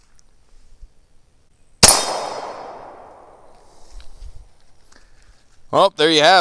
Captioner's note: gunshot